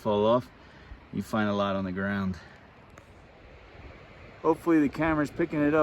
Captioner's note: light water rushing noises